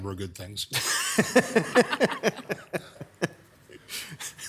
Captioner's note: everyone laughing